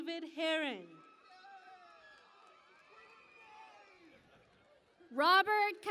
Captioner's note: cheering and Applause